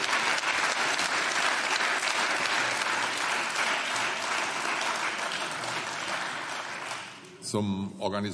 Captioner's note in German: Beifall